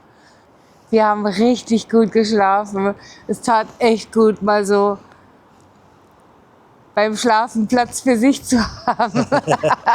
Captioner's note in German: gelächter